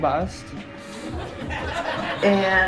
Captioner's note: laughter